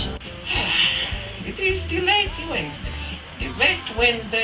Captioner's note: sigh